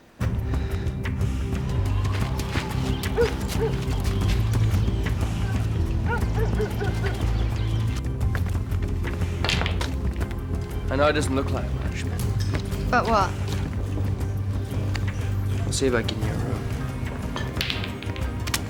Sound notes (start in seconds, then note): 0.3 intense dramatic music; 3.4 birds chirping; 3.4 dog barking